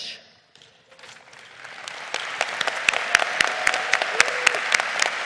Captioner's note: lead applause